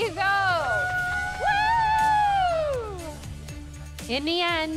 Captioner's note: athletes cheering